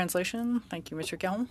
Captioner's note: speaking French